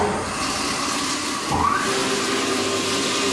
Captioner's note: loud machine whirring